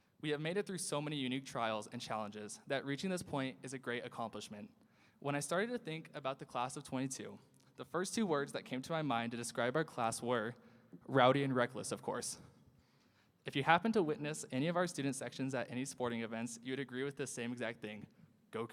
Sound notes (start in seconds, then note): none